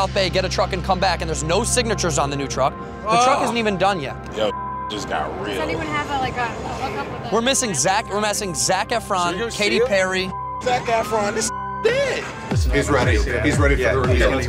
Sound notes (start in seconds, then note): 4.7 beep; 10.6 beep